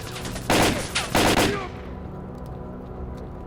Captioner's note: gunshots